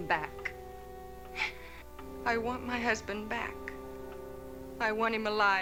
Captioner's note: sobs